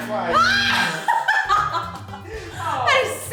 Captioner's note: laughs